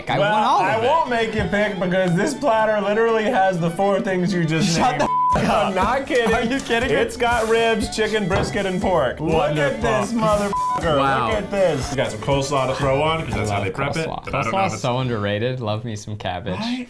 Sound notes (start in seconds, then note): 5.0 beep; 10.4 beep